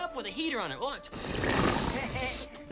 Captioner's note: slurps